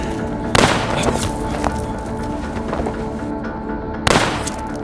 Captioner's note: gun firing